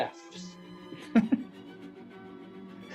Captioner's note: giggling